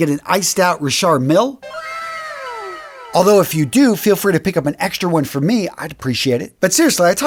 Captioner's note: sound effect